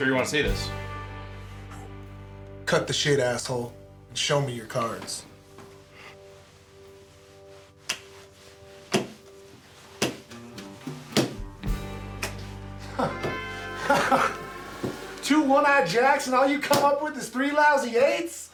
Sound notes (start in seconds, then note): 8.4 slamming cards; 13.6 laughing